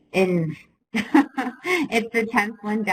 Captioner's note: laughs